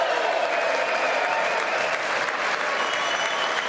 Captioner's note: applause